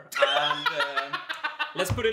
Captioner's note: laughs